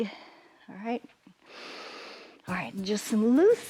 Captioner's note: inhales